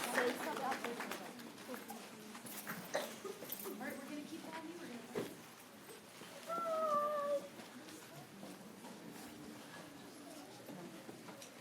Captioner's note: applause